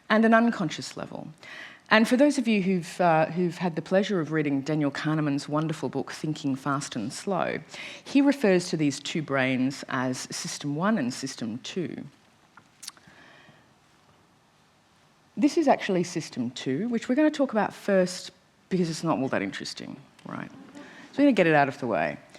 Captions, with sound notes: and an unconscious level. And for those of you who've had the pleasure of reading Daniel Kahneman's wonderful book 'Thinking Fast and Slow', he refers to these two brains as system one and system two. This is actually system two which we're going to talk about first, because it's not all that interesting. Alright. [ Laughter ] We're going to get it out of the way.